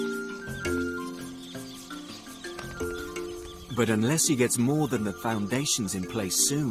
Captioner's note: birds chirping; insects buzzing